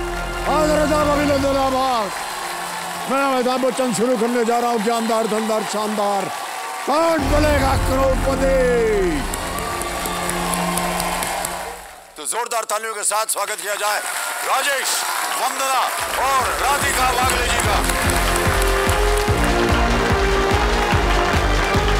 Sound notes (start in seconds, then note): 9.5 applauding; 17.9 theme music playing